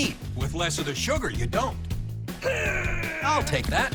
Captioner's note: grunting noise